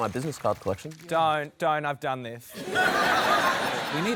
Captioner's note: laughter